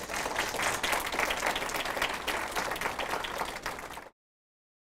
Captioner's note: audience applauding